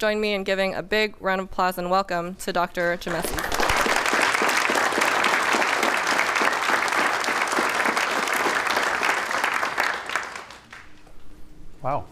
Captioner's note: applause